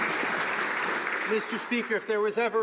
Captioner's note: some Applause